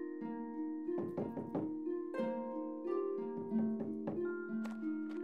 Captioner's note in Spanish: golpeteo